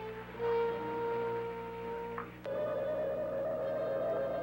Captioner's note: static